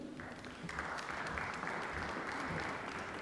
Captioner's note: applause